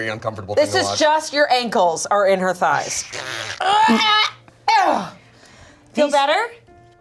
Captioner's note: grunts